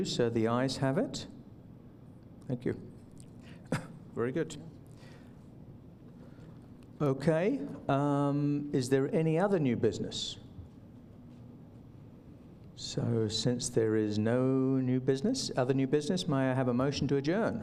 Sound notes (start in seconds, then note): 11.0 silence